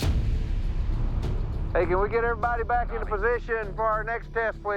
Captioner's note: over walkie